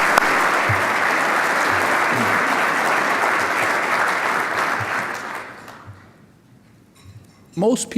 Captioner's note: applause